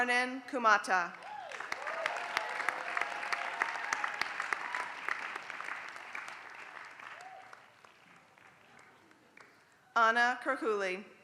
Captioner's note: applause